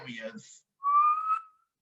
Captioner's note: whistles